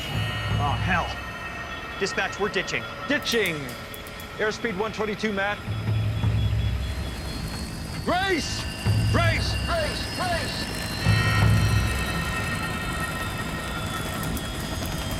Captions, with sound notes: - Oh, hell. - Dispatch, we're ditching. - Ditching airspeed 122, Matt. (humming) Raise, raise, raise, raise! (beeping)